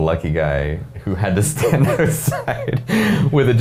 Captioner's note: laughing